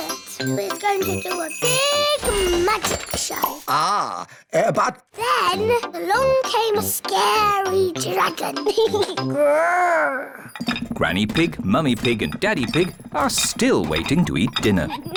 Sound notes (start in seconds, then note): 9.2 giggles, growls